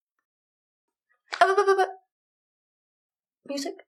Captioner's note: stammers